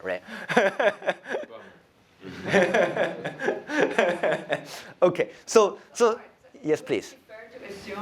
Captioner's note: laughs